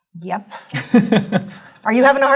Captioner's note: laugh